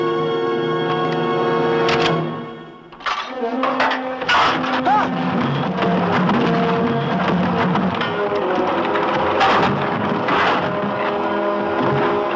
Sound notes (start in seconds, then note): 1.9 clicks; 5.0 logs rumbling; 9.4 dramatic music